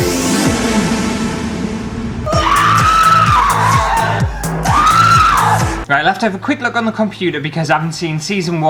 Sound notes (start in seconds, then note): 0.0 spooky Halloween Music; 2.2 screams